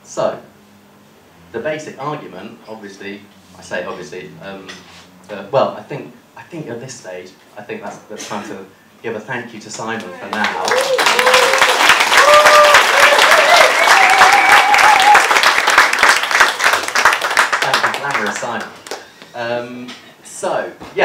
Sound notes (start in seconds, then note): 10.0 applause